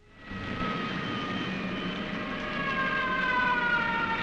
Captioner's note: siren wailing